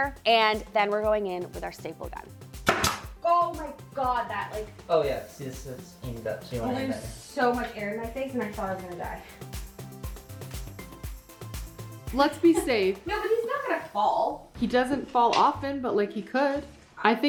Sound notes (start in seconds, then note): 2.8 staple gun shoots; 9.7 upbeat music